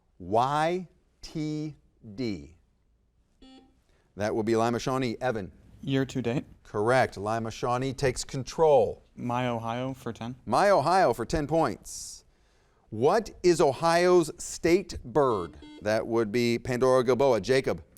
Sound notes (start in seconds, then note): 3.4 buzzer beeps; 15.2 buzzer beeps